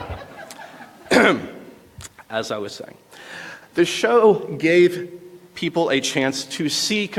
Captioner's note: laughter